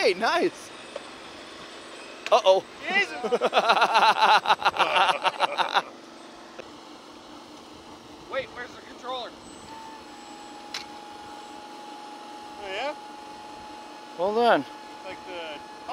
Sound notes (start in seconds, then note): 5.0 laughing